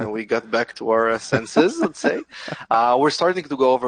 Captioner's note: laughs